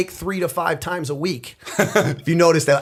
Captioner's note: chuckle